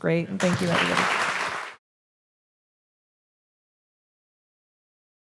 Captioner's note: audience applauding